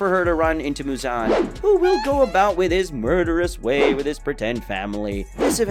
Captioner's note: funny tone